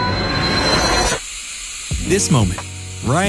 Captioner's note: tense music; static